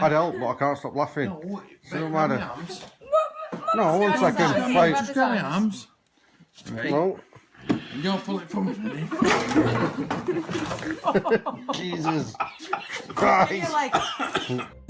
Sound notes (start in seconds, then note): 8.5 friends laughing; 9.3 toy car clatters